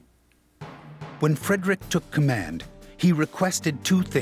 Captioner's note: voiceover